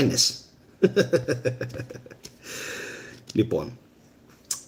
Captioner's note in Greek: γέλια